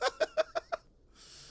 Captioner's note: laughs